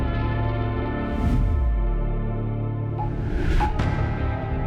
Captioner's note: colored bars whooshing; soft dramatic music